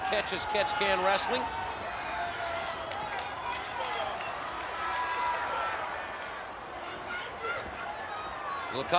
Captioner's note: applause